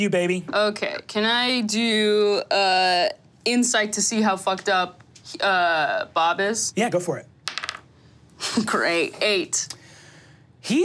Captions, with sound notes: - Pete, that's you, baby. - Okay, can I do insight to see how fucked up Bob is? - Yeah, go for it. (dice taps table) - Great, eight.